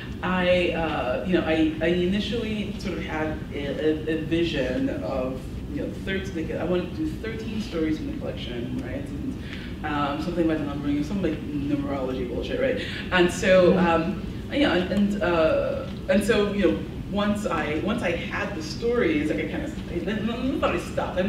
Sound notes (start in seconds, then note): none